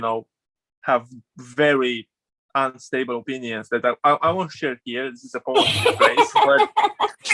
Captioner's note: laughs